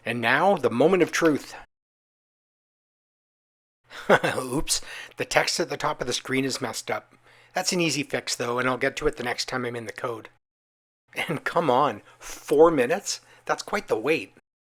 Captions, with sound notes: And now, the moment of truth! [laughs] Oops! The text at the top of the screen is messed up. That’s an easy fix, though, and I’ll get to it the next time I’m in the code. And come on! Four minutes!? That’s quite the wait!